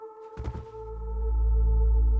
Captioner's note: body thudding; tense music continues